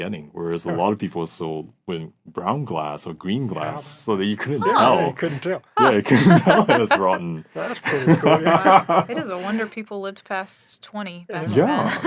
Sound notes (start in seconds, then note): 5.8 laughing; 8.7 laughing